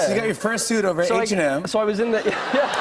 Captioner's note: laughter